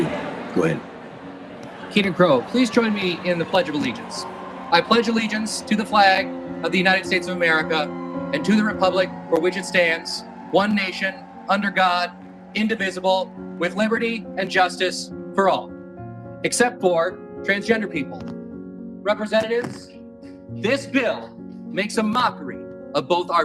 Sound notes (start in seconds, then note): 1.7 crow